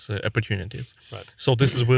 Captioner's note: clears throat